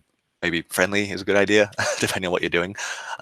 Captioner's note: laughing